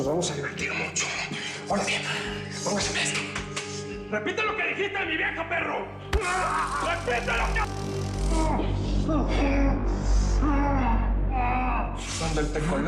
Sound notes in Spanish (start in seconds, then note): 6.2 Sonido de descarga eléctrica; 10.3 Quejido